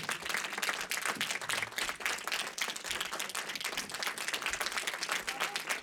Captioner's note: applause